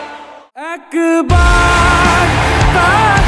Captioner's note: crowd cheering